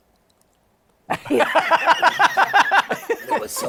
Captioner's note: no audio; laughter